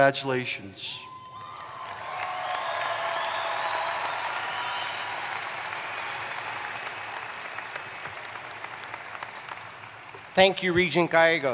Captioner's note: applause